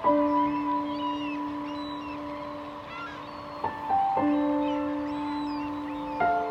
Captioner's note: many bird noises